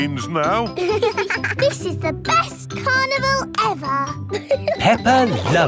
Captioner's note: both giggling